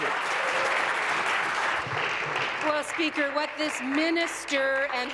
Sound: applause

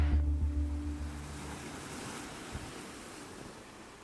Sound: water splashing

